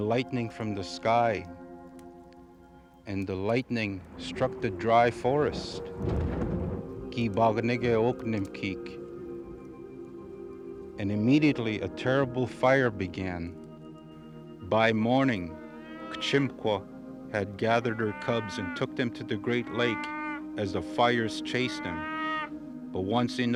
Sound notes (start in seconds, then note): 0.0 speaking foreign language; 5.0 thunder booms; 7.4 speaking foreign language